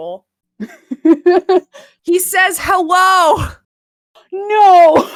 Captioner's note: laughs